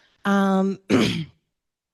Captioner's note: clears throat